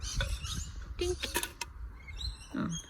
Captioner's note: coin thunks instead